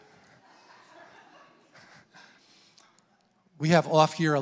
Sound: congregants laughing

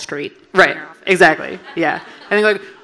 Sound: audience laughing

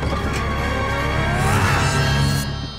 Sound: Picchu yells

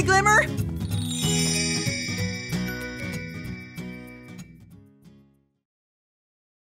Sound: light playful music; stars twinkling

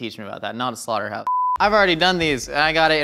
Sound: frame beeps

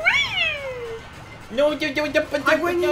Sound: stammering

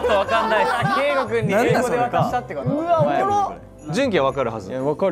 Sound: murmuring

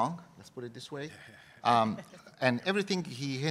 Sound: laugh

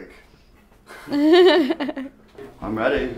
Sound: light laughing

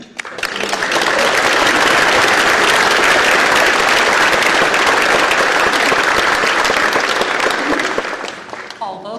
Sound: applause

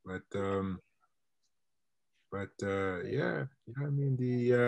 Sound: internet distortion

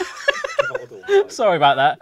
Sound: laughs

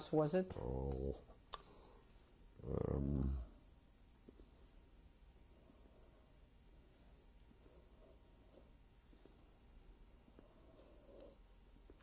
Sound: pauses for 12 seconds

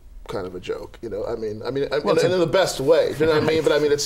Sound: laughter

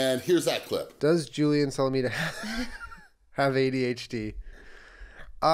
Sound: laughing

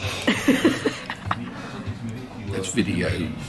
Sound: laughing

